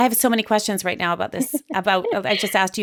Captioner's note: laughs